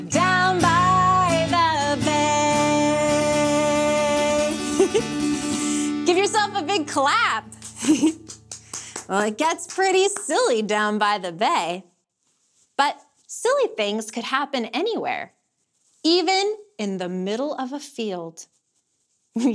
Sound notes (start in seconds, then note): 4.7 chuckles; 7.4 clapping; 7.8 chuckles